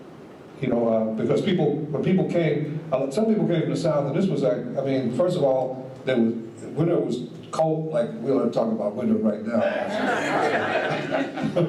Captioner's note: audience laughs